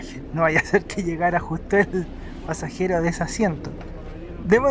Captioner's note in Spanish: risas